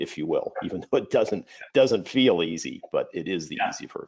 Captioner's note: chuckles